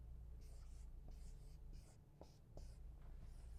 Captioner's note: marker scrapes